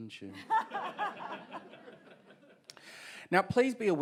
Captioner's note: audience and panel members laugh